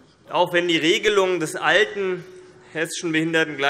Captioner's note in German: none